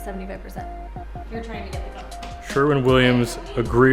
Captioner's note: speaks faintly